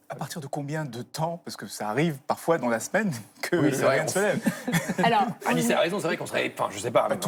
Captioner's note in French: rires